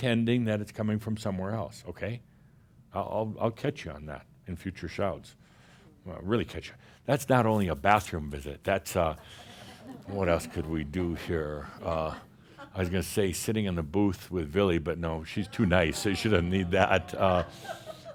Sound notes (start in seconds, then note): 11.4 some chuckles